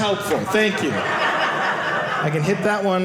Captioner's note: audience laughing